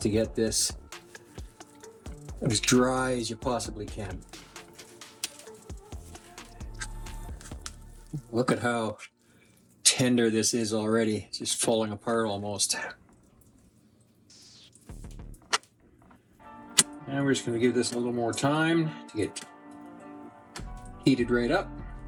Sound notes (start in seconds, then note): 4.2 crunching; 13.9 crunching